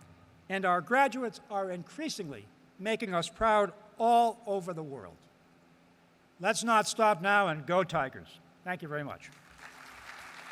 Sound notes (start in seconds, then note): 9.3 applause